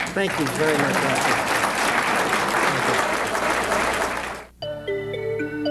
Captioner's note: audience applauding; gentle suspenseful music